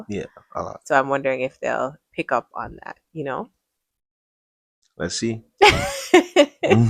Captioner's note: laughter